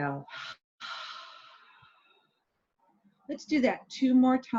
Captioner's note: exhaling